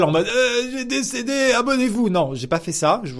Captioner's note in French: voix faible et bruit de souffrance